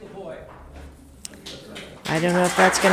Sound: spectators applauding

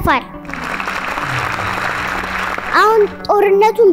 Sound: applause

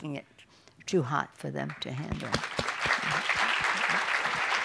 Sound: laughter

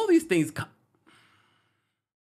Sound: sharply exhales

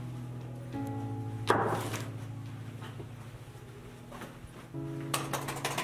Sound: slams bottle down

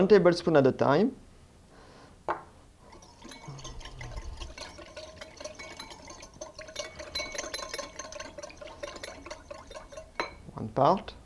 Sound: whisking sounds

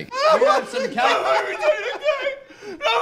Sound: sobbing

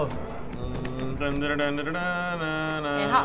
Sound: humming

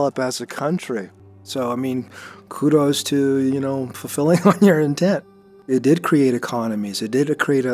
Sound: chuckles

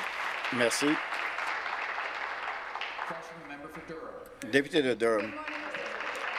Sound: applause

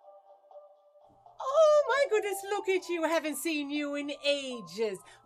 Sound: Newfoundland accent

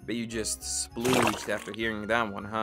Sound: wet gurgling splash

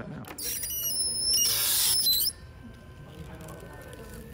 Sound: squeaking

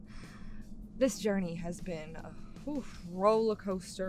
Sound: exhales

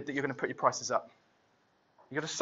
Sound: none

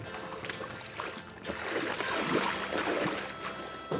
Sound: water splashing

